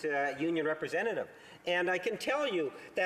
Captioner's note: speaking French